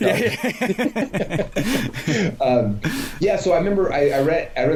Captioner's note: laughter